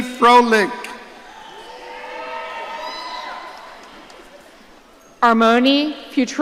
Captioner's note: audience cheering